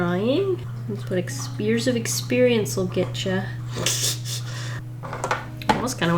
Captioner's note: laughs